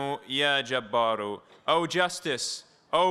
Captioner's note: non-english speech